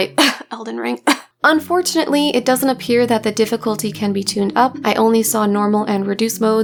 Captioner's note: cough